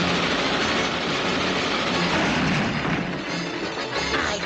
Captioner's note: gate clanging; Mammy crashing